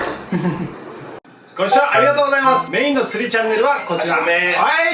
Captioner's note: ringtone